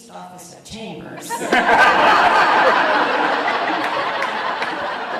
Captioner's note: audience laughs